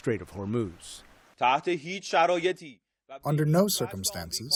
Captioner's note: through translator